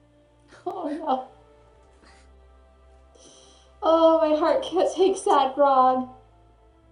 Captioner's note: choked up